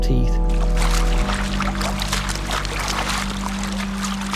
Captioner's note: water splashing